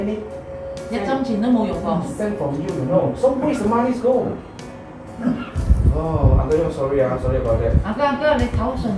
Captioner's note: crying until he coughed